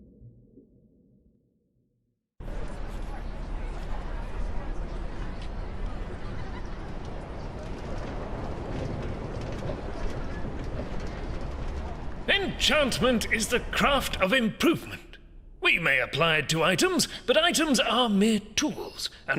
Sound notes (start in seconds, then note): 2.8 students chattering